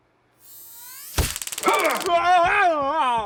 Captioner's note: electric charge from taser gun